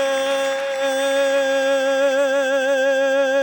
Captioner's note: audience claps